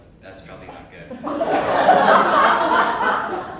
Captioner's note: laughter